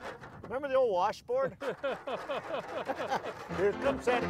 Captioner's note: both laughing